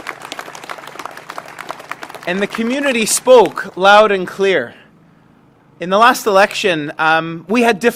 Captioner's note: applause